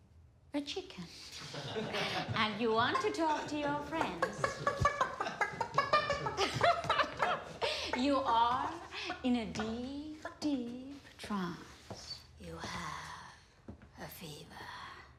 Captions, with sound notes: A chicken. (officers laugh) And you want to talk to your friends. (Petersen clucks) (laughs) You are in a deep, deep trance. You have a fever.